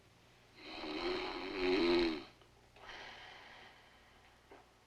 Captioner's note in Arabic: ماريو يشخر